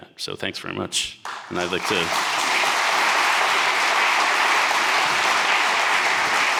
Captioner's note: audience applauding